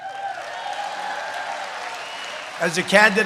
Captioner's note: applause